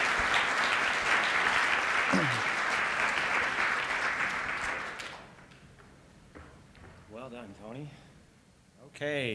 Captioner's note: applause